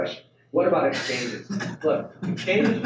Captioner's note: panel laughs